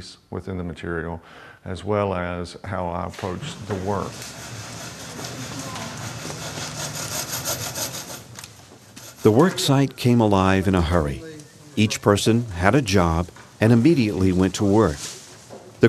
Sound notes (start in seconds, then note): 6.8 sawing sounds